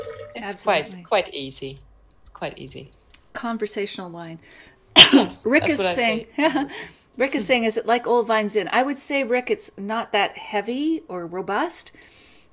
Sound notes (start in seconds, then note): 4.9 coughs